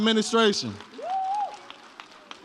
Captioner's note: audience cheers